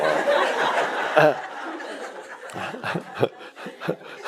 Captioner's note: audience laughs